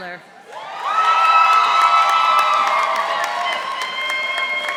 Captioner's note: audience cheering